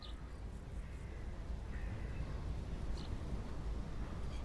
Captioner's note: birds chirping faintly